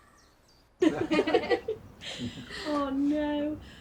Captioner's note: people laughing